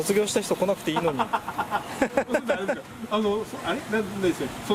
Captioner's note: laughs